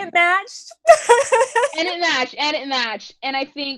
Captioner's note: laughs